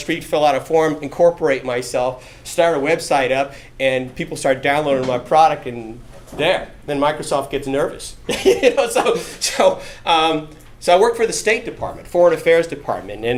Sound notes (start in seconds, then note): 8.3 laughing